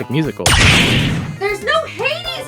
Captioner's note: door slams open